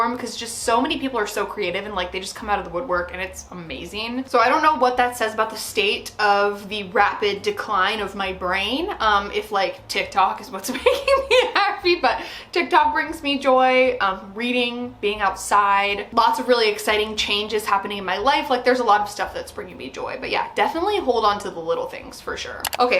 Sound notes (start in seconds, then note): 10.8 laughs